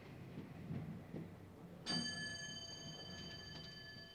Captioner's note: elevator bell rings